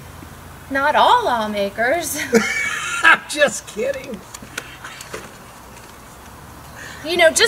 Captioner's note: laughing